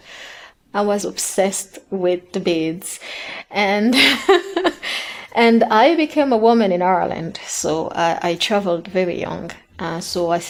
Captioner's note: she laughs